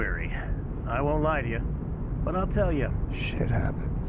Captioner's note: radio